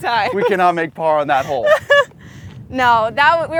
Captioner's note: laughs